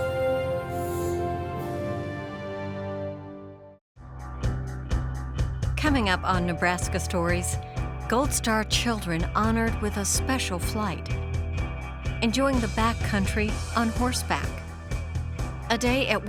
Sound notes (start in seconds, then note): 2.0 trumpet music; 6.7 voiceover